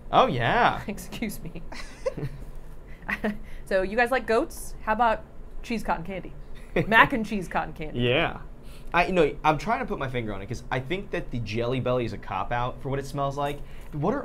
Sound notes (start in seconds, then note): 1.7 all chuckling; 6.6 laughing